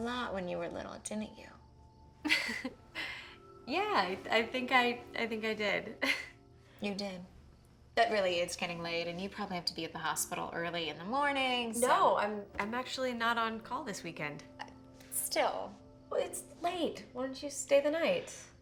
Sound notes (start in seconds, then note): 2.2 laughs; 5.4 laughs